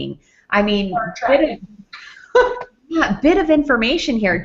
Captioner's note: laughs